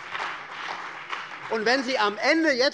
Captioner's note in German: Beifall bei der CDU